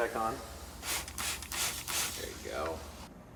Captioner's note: spraying sounds